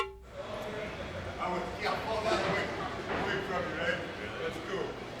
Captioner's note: drum music; Dusty speaking faintly